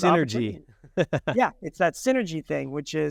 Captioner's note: laughing